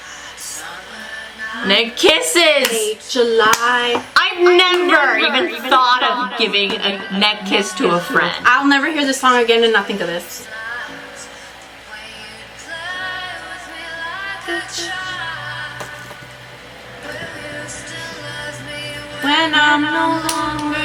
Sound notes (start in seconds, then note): 4.2 echoing